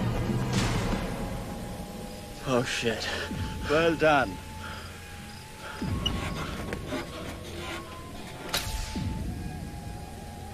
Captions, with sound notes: Oh shit! Well done. [breaths heavily]